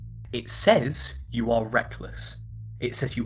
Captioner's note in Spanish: con voz masculina